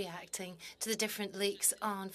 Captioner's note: speaking French